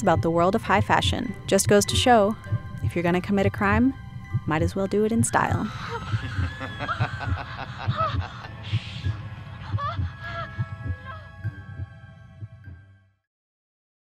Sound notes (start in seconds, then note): 5.7 maniacal laughter; 5.8 hysteric screams; 9.4 woman gasping; 12.0 haunting music